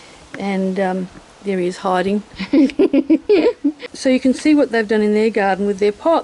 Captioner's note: me laughing